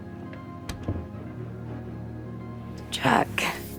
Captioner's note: latch clicks